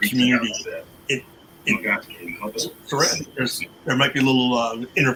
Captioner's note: distorted audio